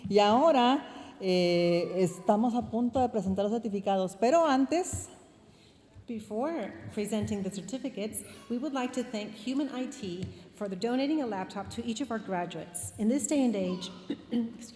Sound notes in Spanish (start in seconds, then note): 6.1 hablando en inglés